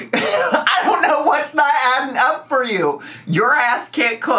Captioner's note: laughs